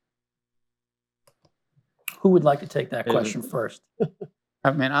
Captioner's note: laughter